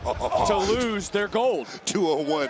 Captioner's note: laughs